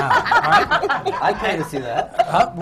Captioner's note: laughter